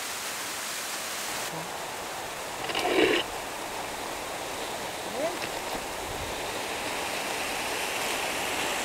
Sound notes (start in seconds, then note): 2.5 camera scrapes tree